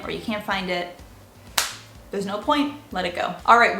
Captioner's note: claps